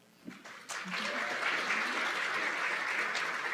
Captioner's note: applause